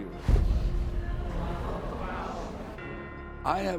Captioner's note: audience murmuring